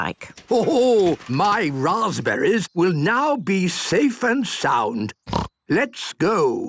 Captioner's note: snort